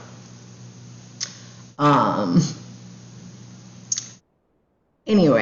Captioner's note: tongue click